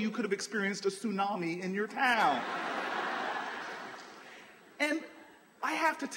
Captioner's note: laughter